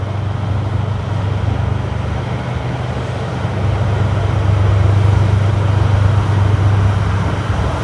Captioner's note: a diesel locomotive